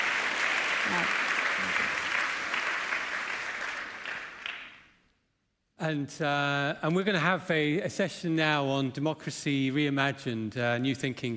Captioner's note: applause